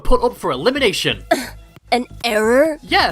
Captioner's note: scoff